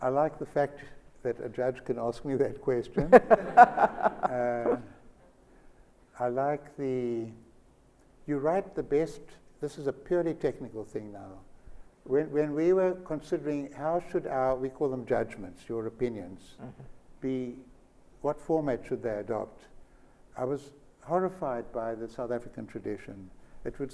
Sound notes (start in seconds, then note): 3.0 Sonia laughs